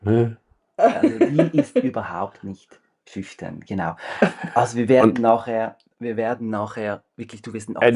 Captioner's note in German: gelächter; gelächter